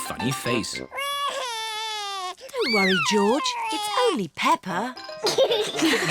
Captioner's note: cries; all laugh